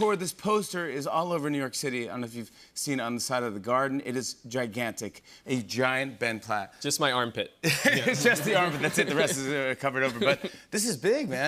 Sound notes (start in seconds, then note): 7.6 laughter